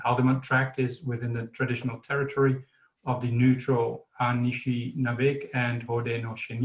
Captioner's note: foreign terms spoken